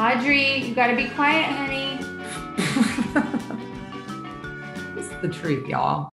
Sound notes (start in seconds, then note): 2.5 laughing